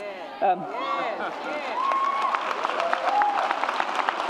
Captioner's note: audience cheers